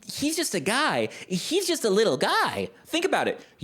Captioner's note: baby voice